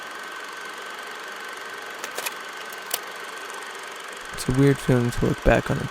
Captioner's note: mechanism clicking continues; projector whirling continues